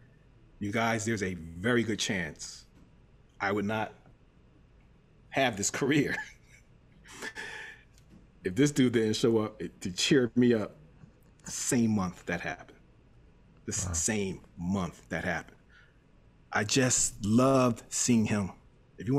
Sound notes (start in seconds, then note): 7.0 laughs